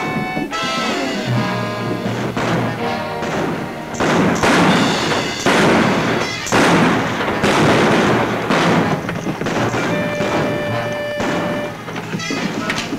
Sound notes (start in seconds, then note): 4.4 exciting music; 4.4 guns bang